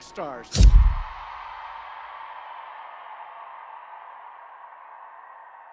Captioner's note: audience cheering; camera clicks